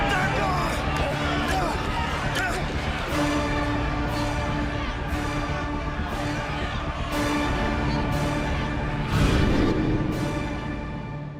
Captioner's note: crowd chatter